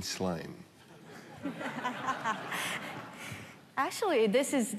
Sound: laughter

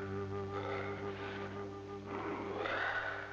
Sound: grunting

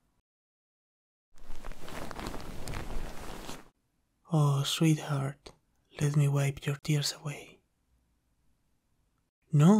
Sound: sheets rustling

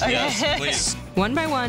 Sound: laughing

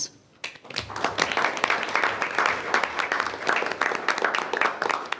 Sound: group applauding

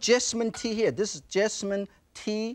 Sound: glass clinks

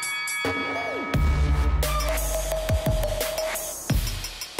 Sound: bell ringing; techno music

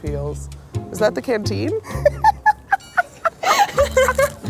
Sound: laughs

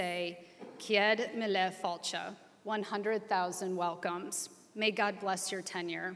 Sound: speaking foreign language

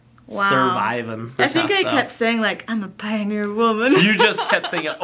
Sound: laughs

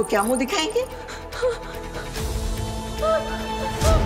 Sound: wincing

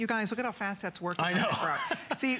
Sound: laughter

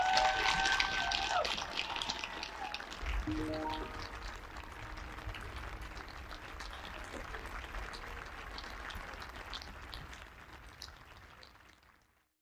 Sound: applause

